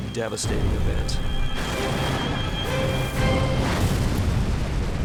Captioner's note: explosions